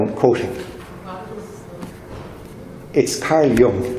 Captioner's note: murmuring